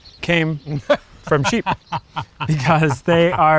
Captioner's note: laughs